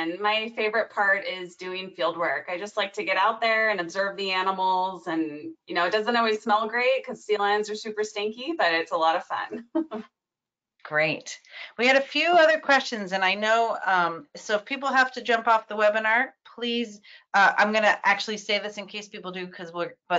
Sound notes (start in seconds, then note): 9.9 laughing